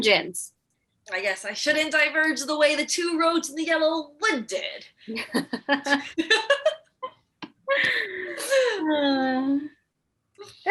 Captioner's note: laughter